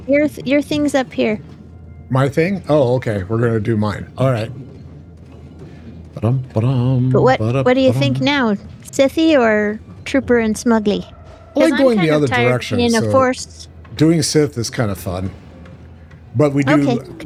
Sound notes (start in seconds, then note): 7.0 humming